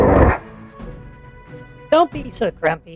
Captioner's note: Bad 2 grumbles